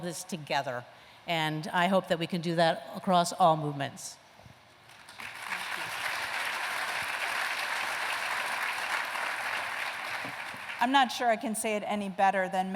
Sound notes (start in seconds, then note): 4.8 applause